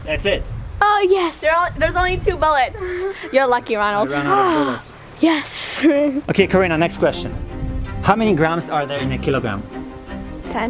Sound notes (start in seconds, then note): 4.0 breathes a sigh of relief; 5.6 laughs